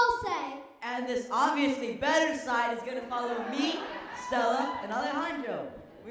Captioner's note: laughter